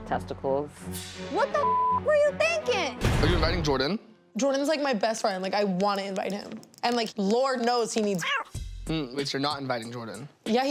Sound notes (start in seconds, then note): 1.6 beep; 8.2 cat meowing